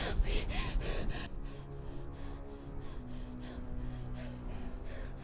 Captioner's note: woman panting